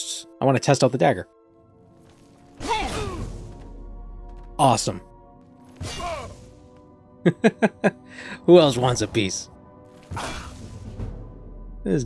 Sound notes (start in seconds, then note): 7.2 chuckling